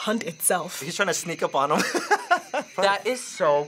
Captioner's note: laughs